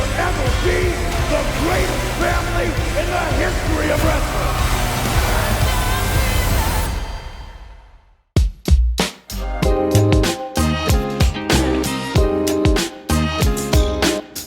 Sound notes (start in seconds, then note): 5.5 audience cheering; 9.0 upbeat music